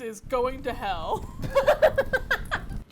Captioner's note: laughs